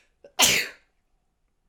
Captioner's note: sneeze!